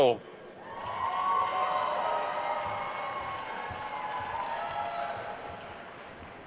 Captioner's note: attendees cheering and applauding